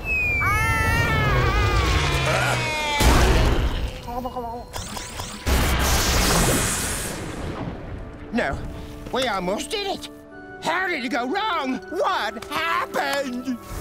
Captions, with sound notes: [screaming] [thudding] No. We almost did it. How did it go wrong? What happened?